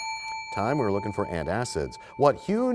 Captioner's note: bell rings, time expires